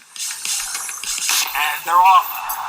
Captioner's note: gunshot